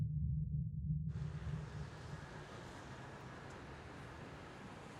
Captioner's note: tires rumbling